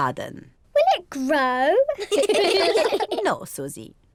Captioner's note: all laugh